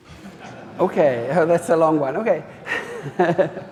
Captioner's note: audience laughing